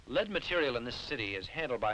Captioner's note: none